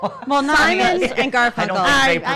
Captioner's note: laughs